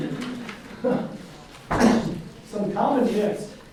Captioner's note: audience laughs